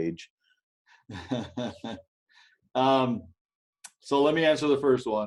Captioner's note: laughs